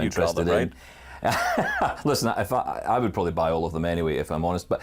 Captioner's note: laughs